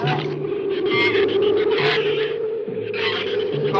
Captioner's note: shrews chatter; wind howls